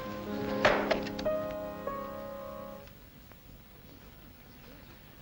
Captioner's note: piano plays; piano stops; object clatters